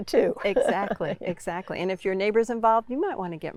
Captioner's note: laughs